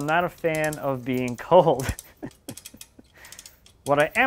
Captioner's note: laughing